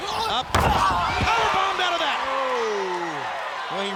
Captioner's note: body thudding